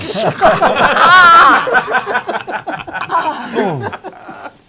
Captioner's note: laughter